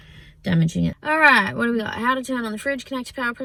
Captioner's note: reads fast